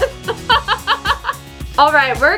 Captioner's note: laughing